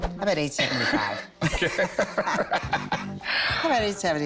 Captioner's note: laughs